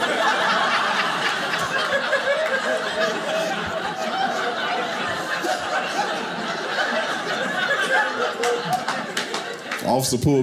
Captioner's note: audience laughing